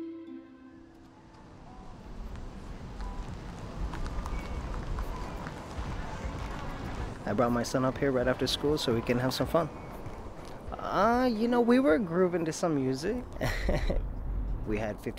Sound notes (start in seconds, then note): 2.6 wind; 13.3 chuckles